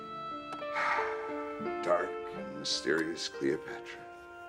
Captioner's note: sighing